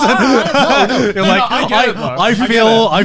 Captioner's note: laughing